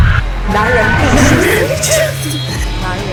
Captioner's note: Mandarin language; Mandarin language